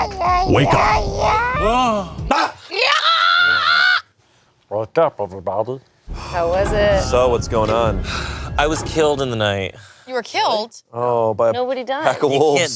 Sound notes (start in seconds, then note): 2.2 groans; 2.7 screams; 3.2 yells